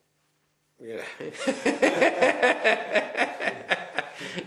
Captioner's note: laughs